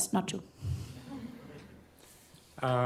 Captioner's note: laughter